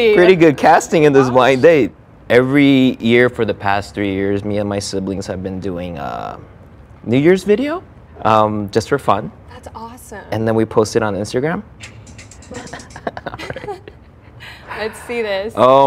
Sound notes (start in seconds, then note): 11.8 upbeat music; 12.4 both laughing